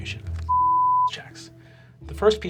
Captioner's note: beeping